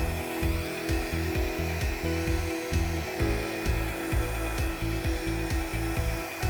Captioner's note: blower whirring continues; pleasant music continues